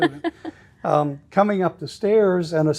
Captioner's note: laughing